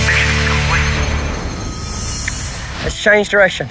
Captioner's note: shimmering